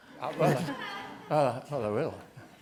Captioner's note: group laughter